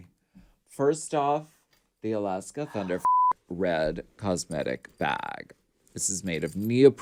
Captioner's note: beep